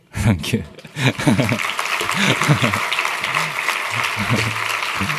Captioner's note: applause